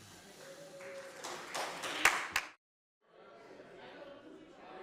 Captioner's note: cheers, applause